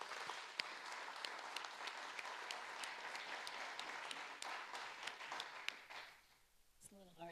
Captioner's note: audience applauding